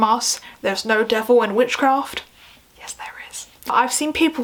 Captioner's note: whispers